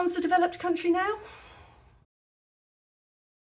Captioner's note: soul-shuddering sigh